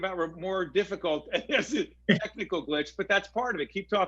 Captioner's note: laughing